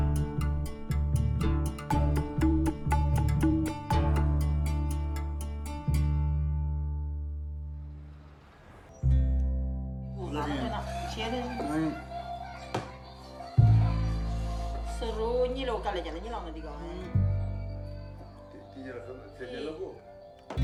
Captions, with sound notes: Please have a beer. (speaking in sherpa language) (slow guitar music)